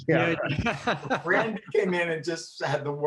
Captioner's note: all laughing